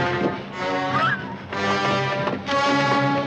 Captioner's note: gasps loudly